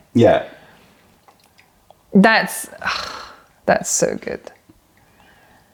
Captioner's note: pouring tea